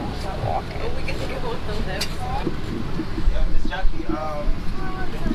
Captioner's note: speaks in foreign language